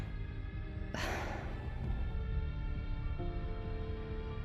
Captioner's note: Brandy sighing